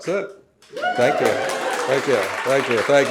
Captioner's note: audience applauding